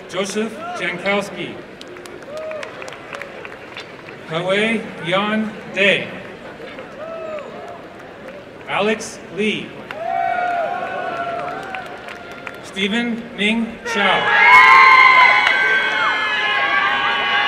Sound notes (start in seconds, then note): 6.2 applause; 9.8 applause and cheering; 14.2 applause and cheering